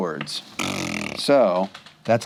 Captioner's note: blows raspberry